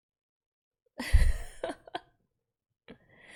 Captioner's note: laughs